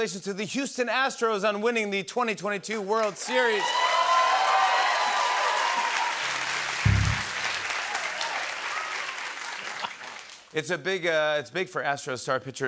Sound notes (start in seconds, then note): 3.0 cheers and applause